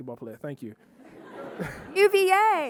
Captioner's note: audience laughing